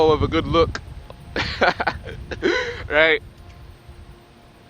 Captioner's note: laughs